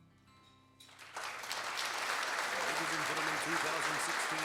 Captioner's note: applause